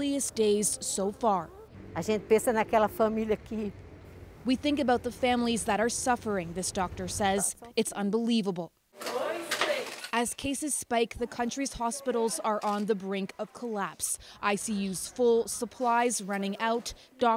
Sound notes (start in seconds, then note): 4.7 speaking Foreign Language